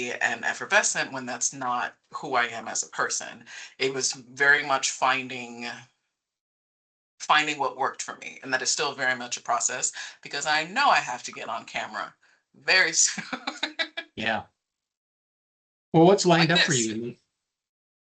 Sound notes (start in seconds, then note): 14.2 laughing